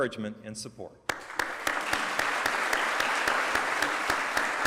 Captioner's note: applause